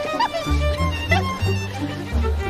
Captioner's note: giggles